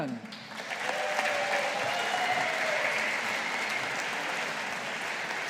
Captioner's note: audience applauding